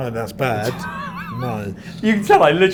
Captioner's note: laughs